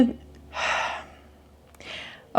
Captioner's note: exhales